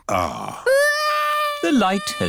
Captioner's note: crying